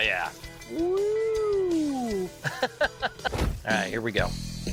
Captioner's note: laughing